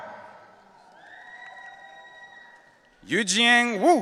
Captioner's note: audience cheering